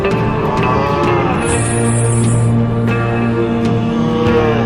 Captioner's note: groaning